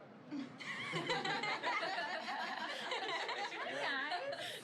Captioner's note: crowd laughing